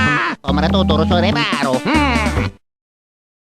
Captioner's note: italian gibberish